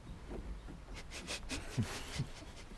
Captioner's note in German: Lachen